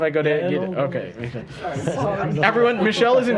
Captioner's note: laughter